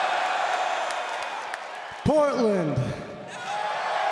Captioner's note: crowd cheering